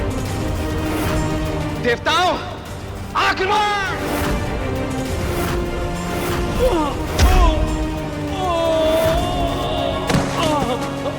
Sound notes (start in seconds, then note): 8.3 screams; 10.0 falls